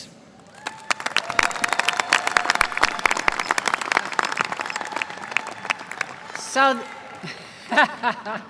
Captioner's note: applause